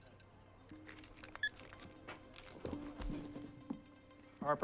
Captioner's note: suspenseful orchestral music; phone beeping